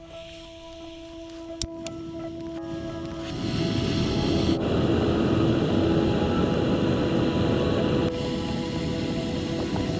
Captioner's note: gas stove sounds